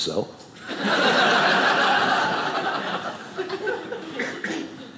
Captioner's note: audience laughing